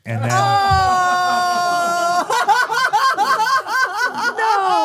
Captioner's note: all exclaiming and laughing